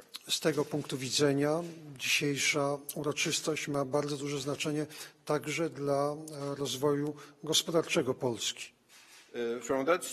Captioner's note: speaking polish